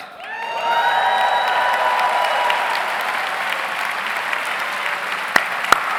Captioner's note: audience applauds; audience cheers